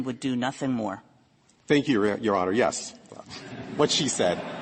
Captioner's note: laughter